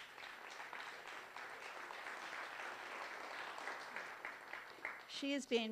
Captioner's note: applause